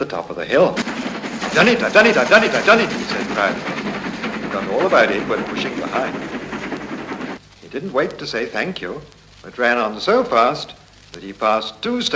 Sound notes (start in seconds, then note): 6.0 chuffing sounds